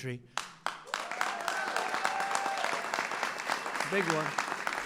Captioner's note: applause